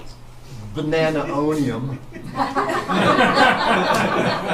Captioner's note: laughter from all